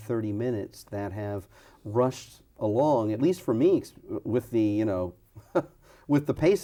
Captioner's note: laughs